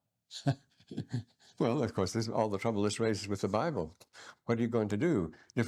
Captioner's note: laughs